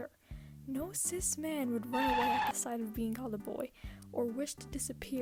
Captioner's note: tire screech